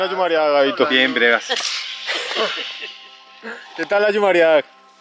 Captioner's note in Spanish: risas